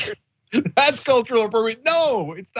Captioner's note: laugh